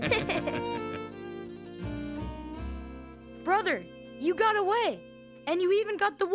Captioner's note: chuckling